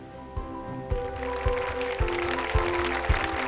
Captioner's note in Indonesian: Tepuk tangan